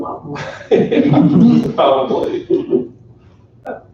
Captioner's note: laughter